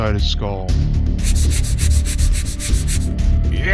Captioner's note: scratch scratch scratch scratch!